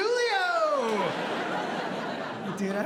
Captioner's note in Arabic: ضحك